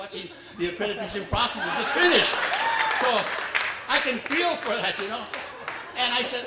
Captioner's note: applause